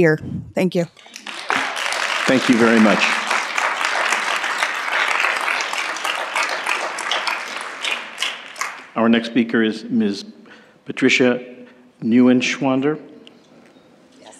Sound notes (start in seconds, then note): 4.3 applause